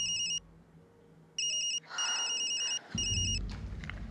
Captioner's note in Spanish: suena el celular